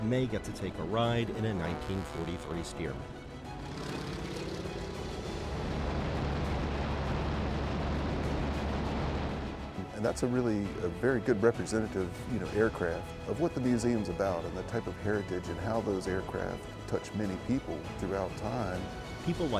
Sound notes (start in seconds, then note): 4.0 plane engine roaring